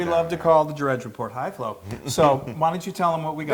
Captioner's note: laugh